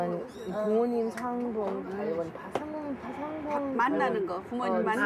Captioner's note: speaking in Korean